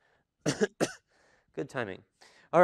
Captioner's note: coughs